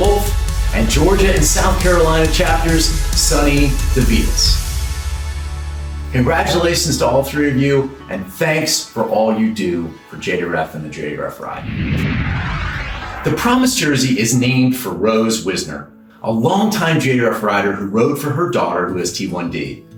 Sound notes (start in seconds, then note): 11.6 screen whooshing